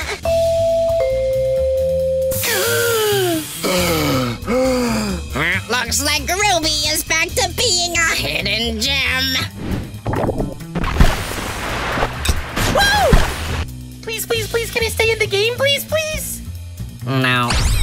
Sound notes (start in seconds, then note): 0.3 calm "bing" sounds play as results are presented; 2.4 large exhale, followed by a large inhale